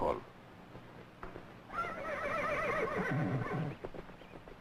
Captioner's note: horse whinnies